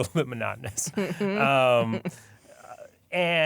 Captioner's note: laughter